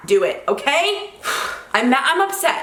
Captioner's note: sighs